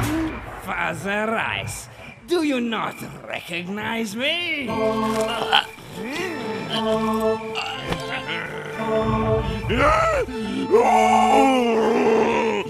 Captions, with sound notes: Father Rice, do you not recognise me? [CHOKE] [MONSTER SCREAMS]